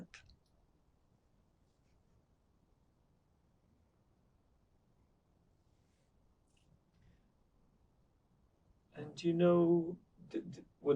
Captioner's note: pauses 8 seconds